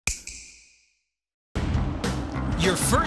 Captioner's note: snap